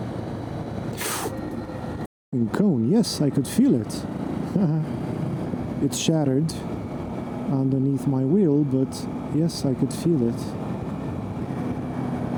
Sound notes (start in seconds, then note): 0.9 sharp inhale